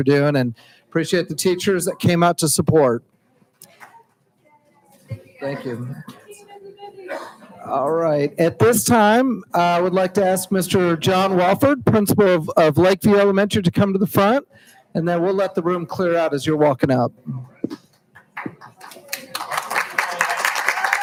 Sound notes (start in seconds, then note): 3.5 hushed speaking; 18.3 applauding